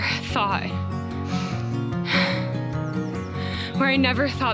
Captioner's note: sighs